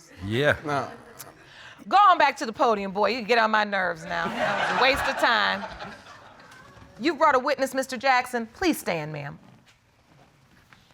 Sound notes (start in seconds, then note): 4.2 audience laughing